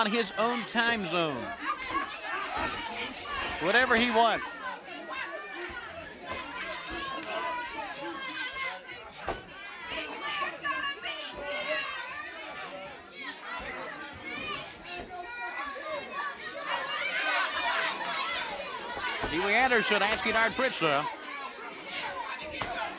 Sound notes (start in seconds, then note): 9.8 crowd chatter